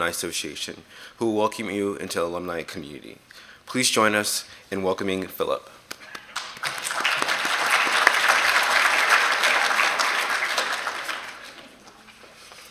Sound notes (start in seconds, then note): 5.9 applause